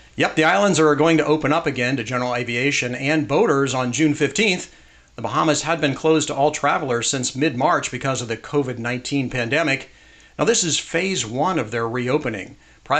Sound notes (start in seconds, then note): none